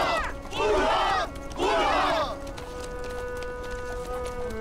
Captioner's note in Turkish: Tezahürat yapılıyor